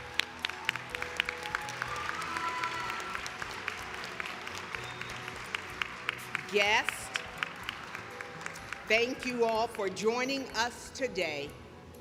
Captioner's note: clapping